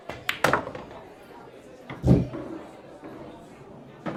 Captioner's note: ball dropping